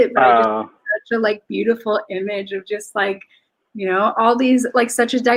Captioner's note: speaks faintly